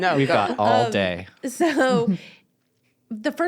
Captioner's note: laughter